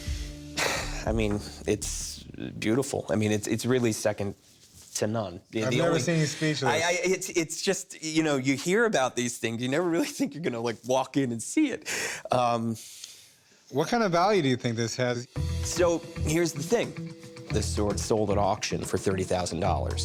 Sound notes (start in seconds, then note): 0.5 sighs; 2.8 stammers; 6.6 stammers